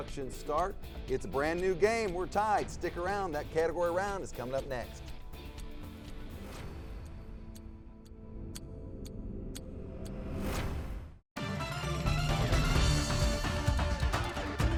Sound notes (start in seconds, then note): 6.7 timer ticking; 11.4 upbeat music